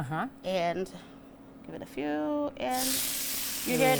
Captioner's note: chicken sizzles